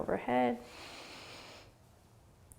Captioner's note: inhaling